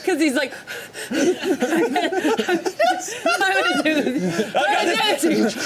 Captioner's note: Odie panting; all laughing